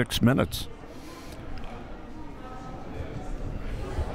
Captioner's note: crowd murmuring